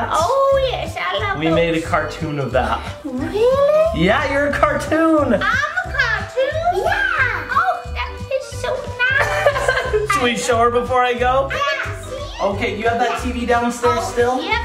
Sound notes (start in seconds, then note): 2.9 gasps; 9.1 laughs